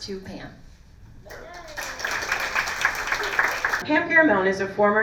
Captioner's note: applause